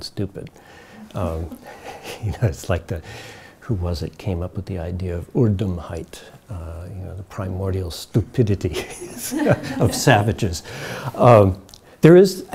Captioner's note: chuckles